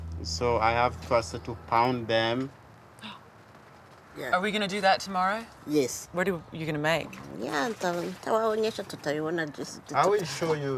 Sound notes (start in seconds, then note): 7.0 speaks in foreign language